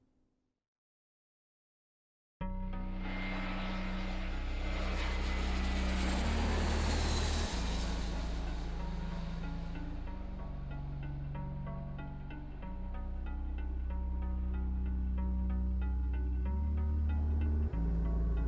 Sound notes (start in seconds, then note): 2.6 light music; 3.0 jet engines whining